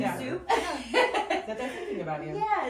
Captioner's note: laughing